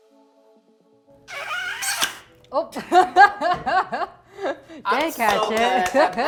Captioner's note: high pitch sound; chuckles; clapping hands